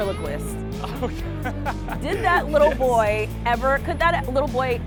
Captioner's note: laughs